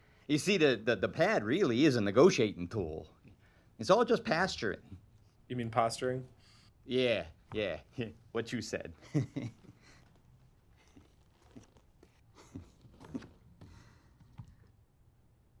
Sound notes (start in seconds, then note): 9.0 chuckles